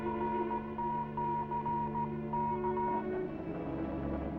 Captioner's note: device beeping